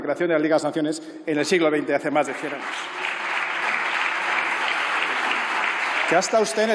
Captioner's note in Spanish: Aplausos